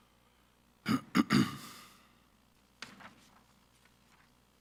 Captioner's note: clears throat